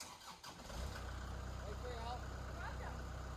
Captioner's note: engine starts